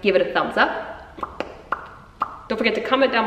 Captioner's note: popping noise